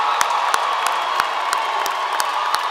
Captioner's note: applause